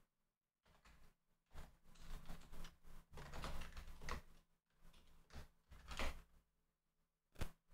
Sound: typing; typing

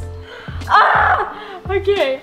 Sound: yells

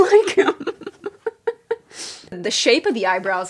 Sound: laughing

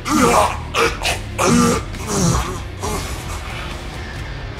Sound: death Sounds

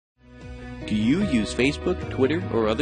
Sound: voiceover

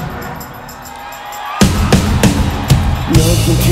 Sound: audience cheers

